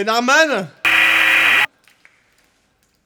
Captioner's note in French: Bruit parasite